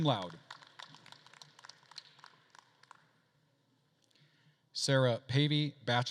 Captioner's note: attendees applauding